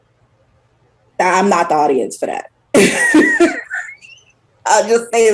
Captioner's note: laughs